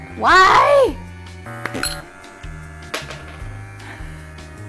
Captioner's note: brush clattering